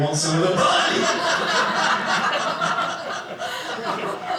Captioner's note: audience laughing